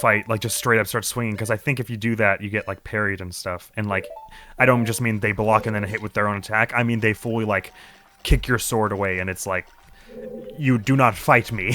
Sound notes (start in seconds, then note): none